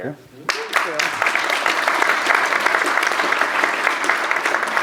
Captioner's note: applause